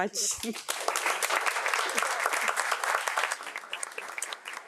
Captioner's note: audience applauds